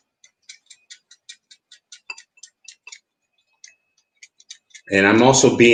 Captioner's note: rapid trigger squeezing